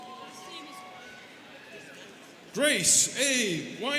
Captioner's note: students cheering